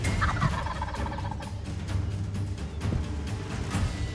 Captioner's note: turkey gobbles